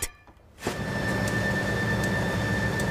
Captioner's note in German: Maschinenlärm